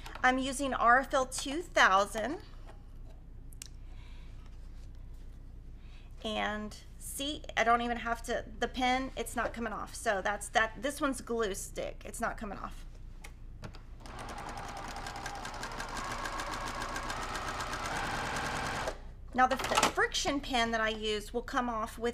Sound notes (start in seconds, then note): 14.0 sewing machine whirling